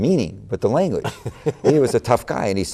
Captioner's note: laughter